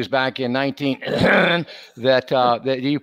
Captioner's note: coughs